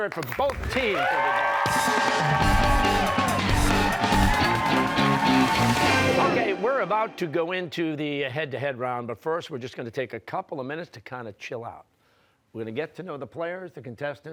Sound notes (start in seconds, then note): 1.9 cheers and applause